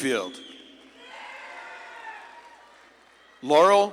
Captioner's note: audience claps and cheers